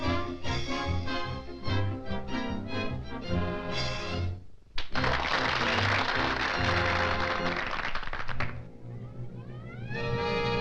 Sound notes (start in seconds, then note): 4.8 audience applauding; 7.7 dramatic music